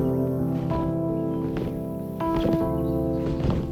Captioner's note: birds chirping